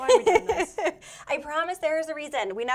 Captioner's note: laughs